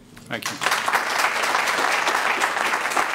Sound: applause

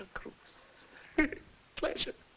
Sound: laughing

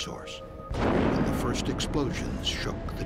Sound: sound of explosion

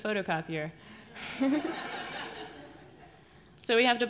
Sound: audience laughs

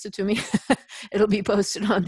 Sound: laughter

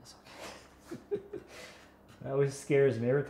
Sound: laughs

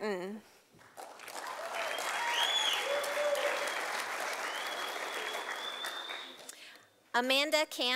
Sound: sound of applause from audience

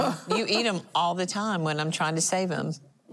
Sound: laughing

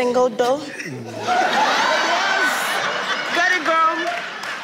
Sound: laughs

